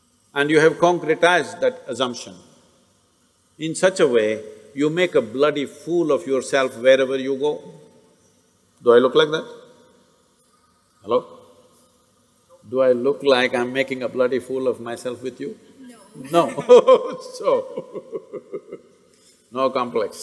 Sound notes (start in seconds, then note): 17.5 laughs